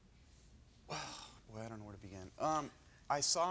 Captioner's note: exhale deeply